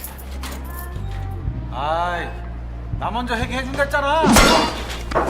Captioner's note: speaking Korean